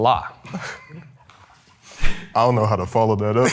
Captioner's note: contestants laughing